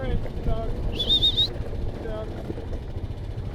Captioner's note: whistles